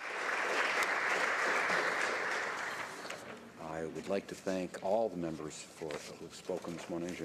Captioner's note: applause